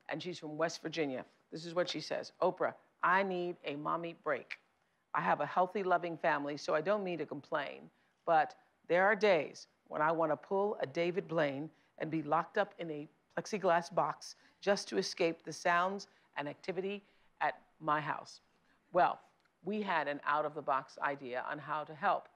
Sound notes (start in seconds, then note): none